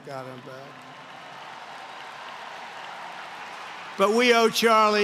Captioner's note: applause